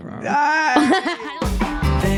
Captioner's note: laughing